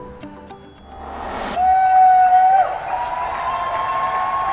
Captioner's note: people cheering